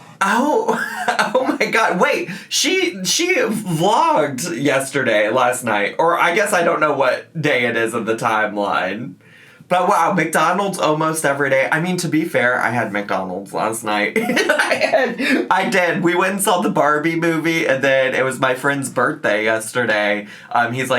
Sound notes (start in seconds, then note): 14.2 laughs